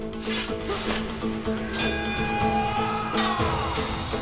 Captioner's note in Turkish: Kılıç sesleri